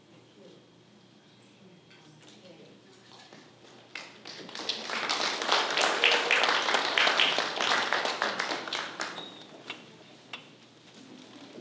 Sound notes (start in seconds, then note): 3.9 applause